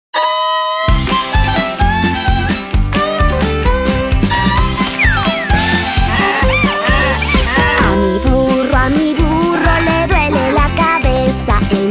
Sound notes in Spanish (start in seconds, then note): 0.0 Sonido de burro; 0.9 Música Alegre